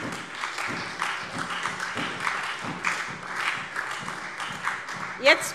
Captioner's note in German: Beifall SPD und DIE LINKE